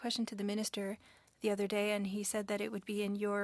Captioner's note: speaking French